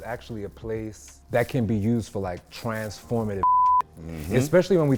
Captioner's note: beeps